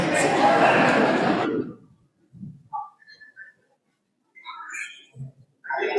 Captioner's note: laughter